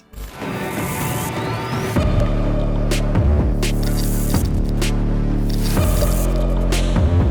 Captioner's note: dramatic music; logo crackling